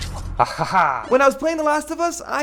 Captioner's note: laughs